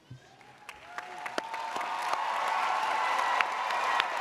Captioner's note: audience cheers